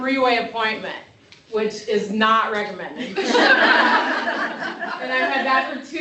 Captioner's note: laughter